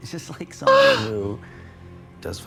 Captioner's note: Trixie yips